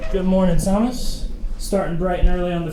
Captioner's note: door squeaking